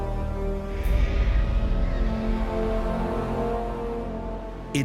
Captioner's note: bird screeching